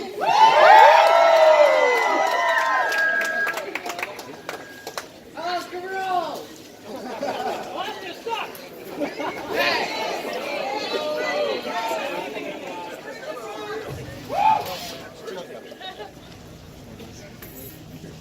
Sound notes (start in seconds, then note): 0.0 crowd cheers; 2.9 microphone feedback; 6.8 crowd laughter; 9.0 crowd laughter and cheers; 14.2 hush from another passenger